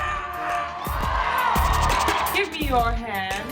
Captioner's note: audience cheering